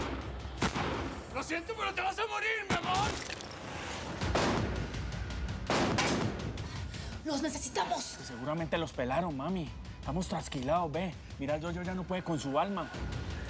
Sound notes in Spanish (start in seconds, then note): 3.8 continúan los disparos